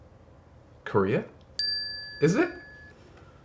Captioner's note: bell chimes